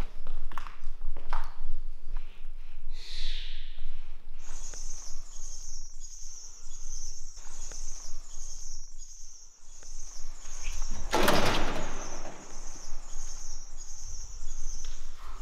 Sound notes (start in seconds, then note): 2.9 echo of birds chirping inside building